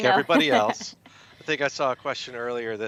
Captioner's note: chuckles